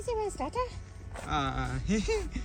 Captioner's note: laughing